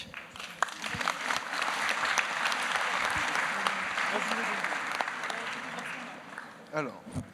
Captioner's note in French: Applaudissements